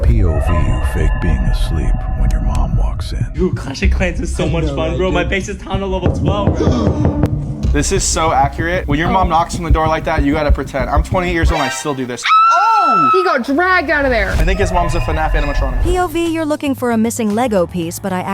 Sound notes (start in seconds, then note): 7.9 door knocking; 12.2 person screams